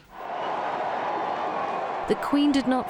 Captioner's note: crowds cheering